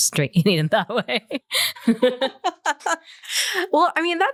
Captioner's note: laughter